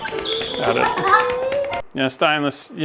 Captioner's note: cackles